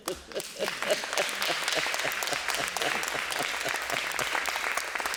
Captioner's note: applause